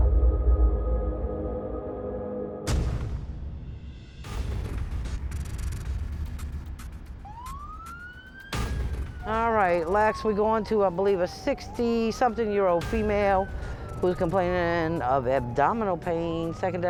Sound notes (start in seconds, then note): 7.3 siren wails